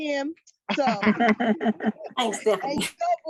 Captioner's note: laughing